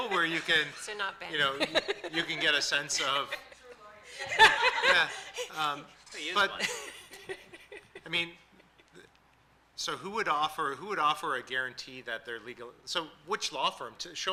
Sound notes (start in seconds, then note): 1.3 laughing